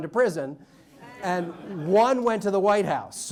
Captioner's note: audience laughs